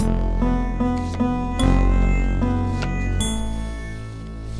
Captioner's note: sound of playing cards